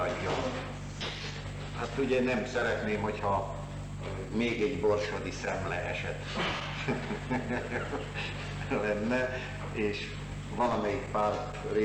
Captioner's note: laughter